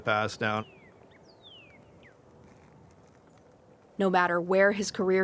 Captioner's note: bird chirping